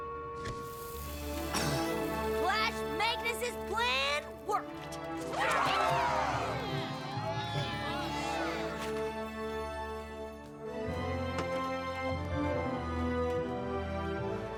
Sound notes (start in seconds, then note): 1.4 poof!; 1.5 cough; 5.2 cheering; 10.4 triumphant music plays